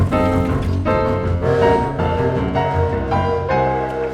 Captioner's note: distress whistle